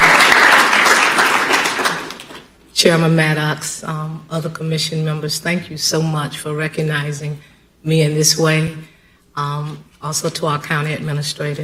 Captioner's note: applause